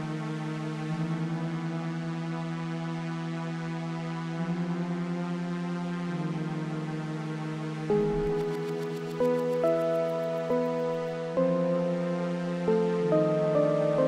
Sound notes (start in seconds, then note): 9.0 text rustles